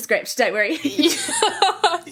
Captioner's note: laughing